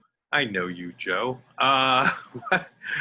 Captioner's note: laughs